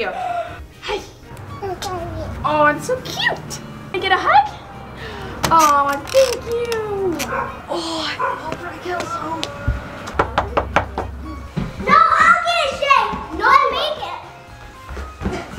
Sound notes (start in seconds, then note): 9.4 knocking